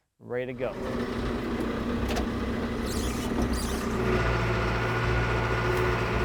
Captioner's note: telehandler engine rumbling